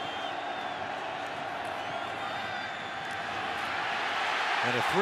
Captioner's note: crowd cheering